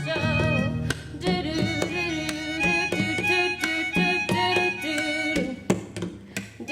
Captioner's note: humming; instrumental music